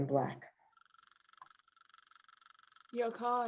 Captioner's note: engine idles